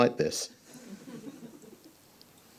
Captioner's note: audience chuckles